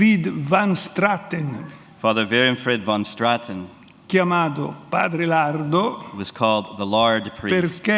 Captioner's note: speaks in Italian; speaks in Italian